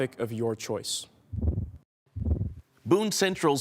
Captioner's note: whoosh